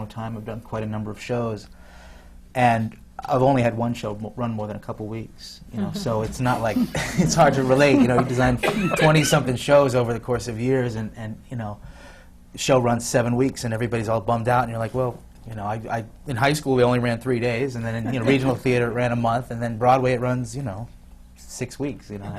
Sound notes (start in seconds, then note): 6.5 laughs